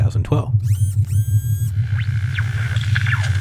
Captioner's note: rover sounds